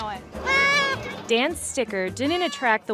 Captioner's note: goat bleats